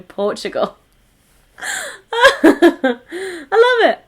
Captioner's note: laughs